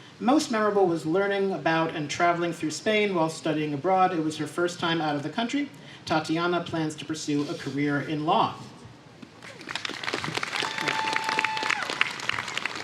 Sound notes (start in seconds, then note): 9.4 applause